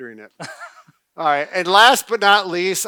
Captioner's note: laughs